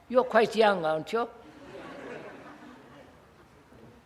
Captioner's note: laughter